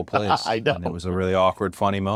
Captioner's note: laugh